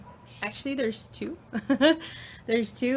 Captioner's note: laughs